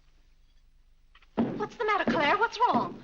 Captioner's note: foot stomping